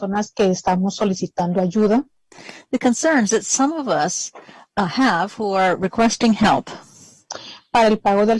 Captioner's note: speaking spanish